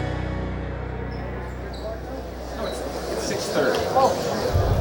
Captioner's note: crowd chattering